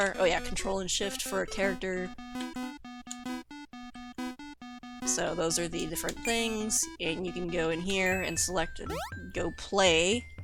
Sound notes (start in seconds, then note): 0.9 game "plink" noises